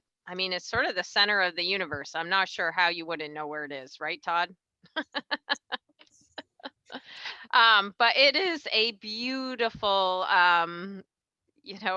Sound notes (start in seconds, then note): 6.4 chuckles softly